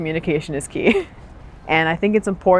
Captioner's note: laughs